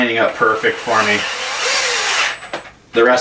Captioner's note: whirring